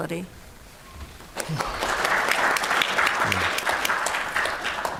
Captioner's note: applause